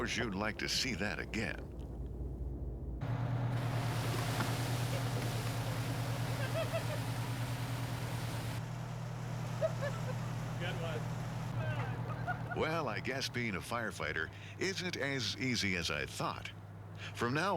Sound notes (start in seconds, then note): 6.3 laughter